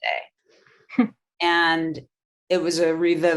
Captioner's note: chuckling